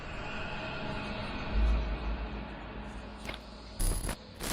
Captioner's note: ghosts whispering; screen crackling